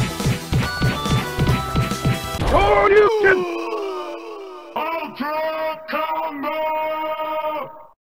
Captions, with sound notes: S U R E Y O U C A N OHHHHUHHHHHHHHWA *echo* Killer Instinct Announcer:ULTRA COMBO!!!!!!!!!!!!!!!!!!!!!11111